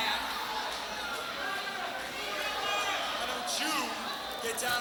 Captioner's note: crowd cheering